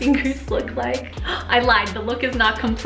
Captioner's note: gasping